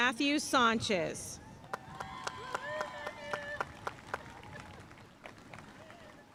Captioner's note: audience cheering and applauding